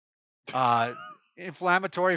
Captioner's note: laughs